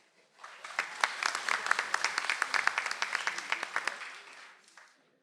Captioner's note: audience applauds